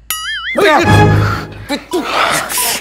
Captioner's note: Startles